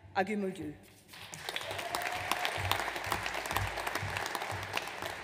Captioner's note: audience applauds